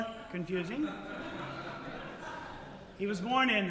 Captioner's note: audience Laughter